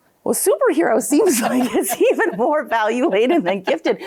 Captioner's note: both laughing